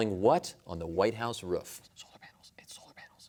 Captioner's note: whispering